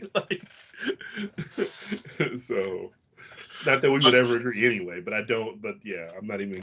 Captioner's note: laughs